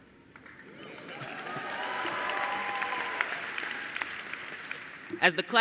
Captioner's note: applause